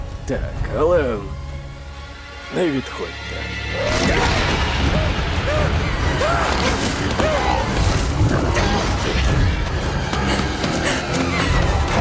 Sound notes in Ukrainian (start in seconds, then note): 6.0 волає від страху